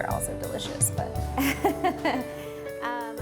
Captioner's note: laughs